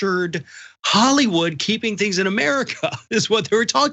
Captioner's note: laugh